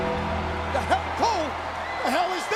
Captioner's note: ominous music; audience cheers